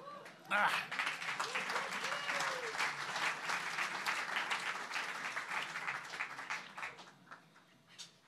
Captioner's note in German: Applaus